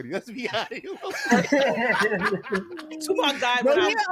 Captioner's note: laughter